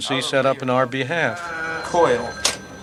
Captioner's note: phones ringing, workers talking